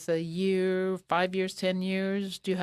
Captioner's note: speaking French